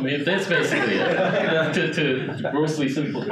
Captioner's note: audience laughing